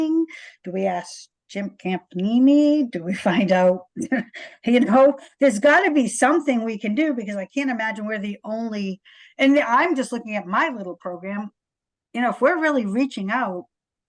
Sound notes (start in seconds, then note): 3.9 laugh